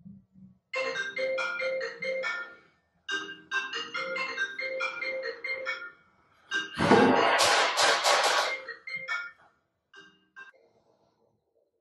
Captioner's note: phone rings